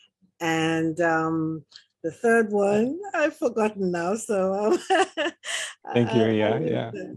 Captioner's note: laughs